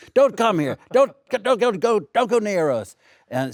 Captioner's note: Alexander laughs